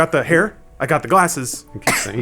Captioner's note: coughs